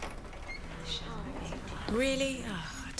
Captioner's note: groans